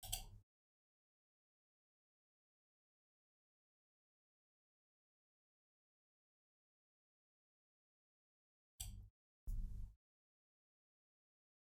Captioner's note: blank Audio